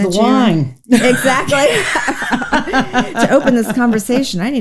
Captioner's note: both laughs